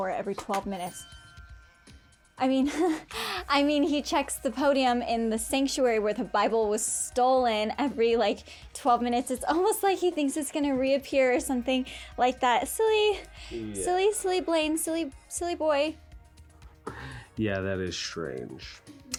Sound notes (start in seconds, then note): 1.4 tense music; 2.6 giggles